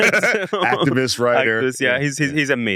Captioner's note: laughs